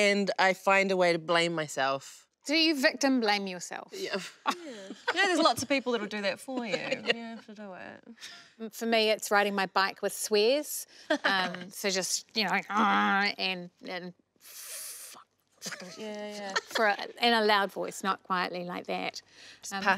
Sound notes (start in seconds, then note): 4.0 laughs; 11.1 laughs; 15.6 laughs